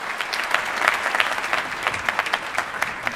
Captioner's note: applause